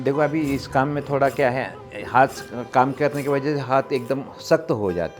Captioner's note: speaking foreign language